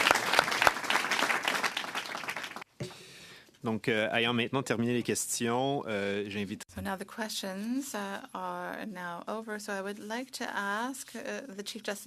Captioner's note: applause